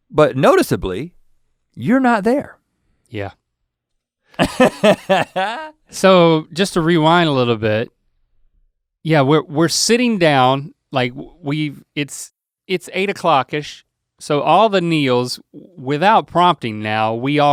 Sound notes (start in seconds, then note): 4.4 Rhett scoffs